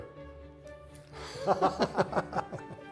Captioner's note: both laugh